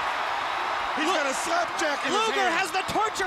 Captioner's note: crowd cheering